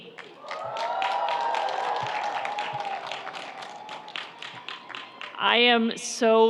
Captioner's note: audience applauds; audience cheers